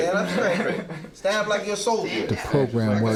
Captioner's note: laughing